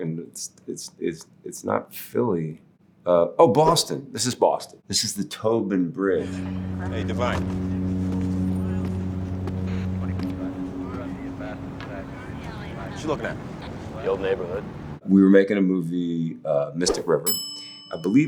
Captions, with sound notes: and it's not Philly. Oh, Boston, this is Boston. This is the Tobin Bridge. - Hey, Devine. [officers speaking on radio] What you looking at? - The old neighborhood. We were making a movie, "Mystic River". [bell dinging]